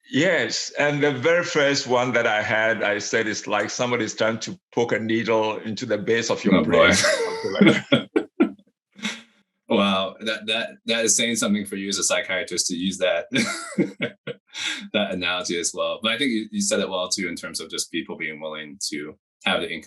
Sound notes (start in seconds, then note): 6.5 laughs